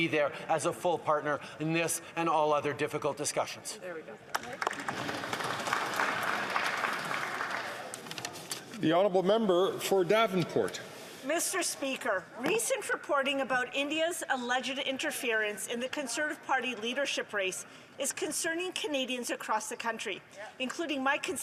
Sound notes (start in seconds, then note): 7.8 some Applause